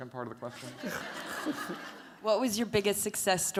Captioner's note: laughter